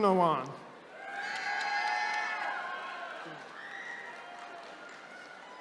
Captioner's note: attendees cheering